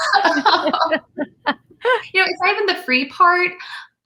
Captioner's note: all laughing